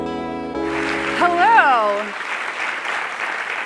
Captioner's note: applause